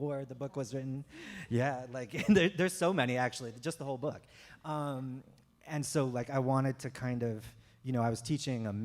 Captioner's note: chuckle